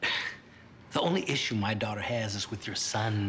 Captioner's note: scoffs